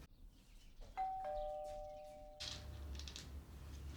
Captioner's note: doorbell dings